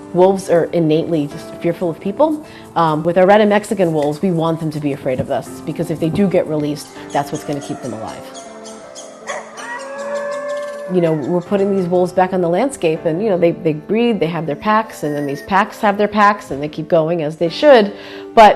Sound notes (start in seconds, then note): 9.0 wolves howling